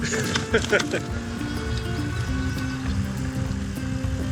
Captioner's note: laughs